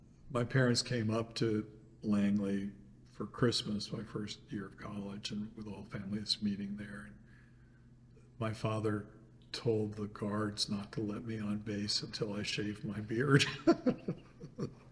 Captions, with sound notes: my parents came up to Langley for Christmas, my first year of college, and with all families meeting there. And my father told the guards not to let me on base until I shaved my beard [laughs].